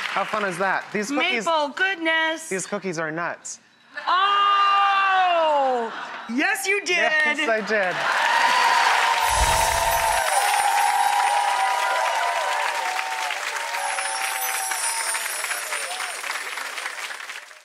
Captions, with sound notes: How fun is that? These cookies-- Maple goodness! These cookies are nuts. (audience laughs) Oh! Yes you did! Yes I did. (audience laughs) (audience applauds and cheers)